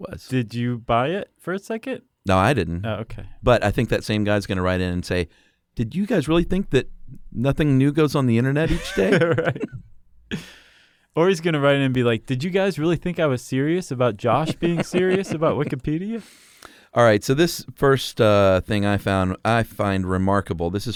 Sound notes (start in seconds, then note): 8.6 laughs; 14.3 laughs